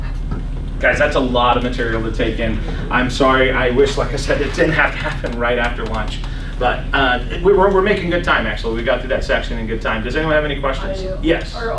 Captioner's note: laughs